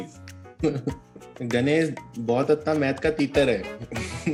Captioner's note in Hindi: तुतलाते हुए